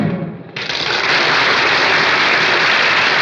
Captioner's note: applause